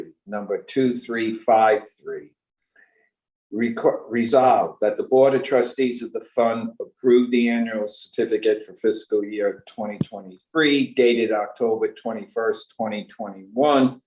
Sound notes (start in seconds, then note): none